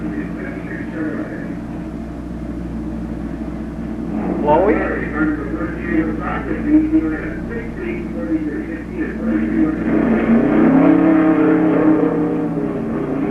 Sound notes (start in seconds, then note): 6.1 announcer echoing; 10.2 engine roaring